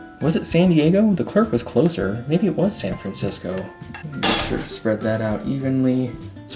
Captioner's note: metal clang